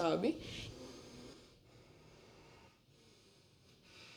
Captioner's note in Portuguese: inspira forte